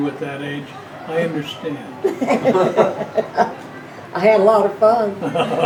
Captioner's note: laughing